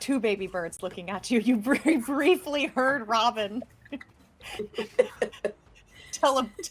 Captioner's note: laughing